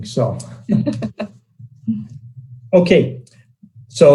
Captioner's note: female trusting laughing